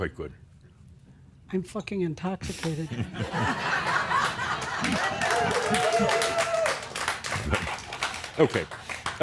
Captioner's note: laughter and some cheers and applause